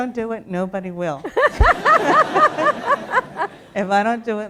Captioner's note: laughter